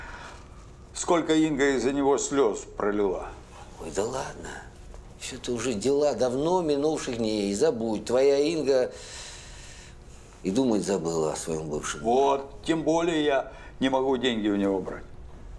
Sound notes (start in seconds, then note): none